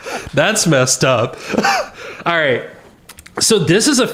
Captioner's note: laughter